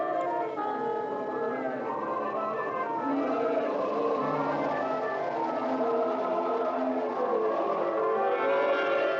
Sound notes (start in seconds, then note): 1.0 voices Echoing, Fading; 6.0 voice, Fading